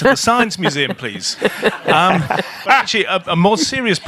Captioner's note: laughing